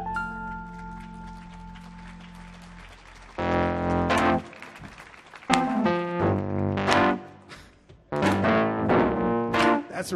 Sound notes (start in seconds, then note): 0.2 audience applauds; 3.4 blues music; 5.9 everyone clapping in rhythm